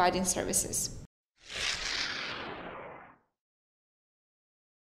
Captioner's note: swooshing sound